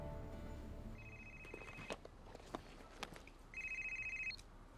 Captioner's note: phone rings